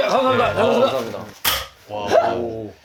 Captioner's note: clang!